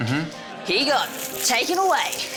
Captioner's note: none